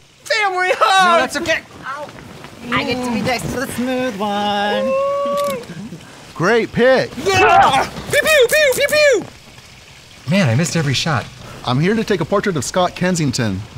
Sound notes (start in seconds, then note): 5.3 camera clicks; 7.2 screams